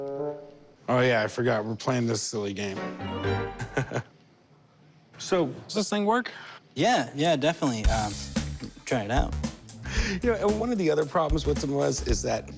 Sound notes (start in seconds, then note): 3.4 Corey laughs; 9.9 Corey chuckles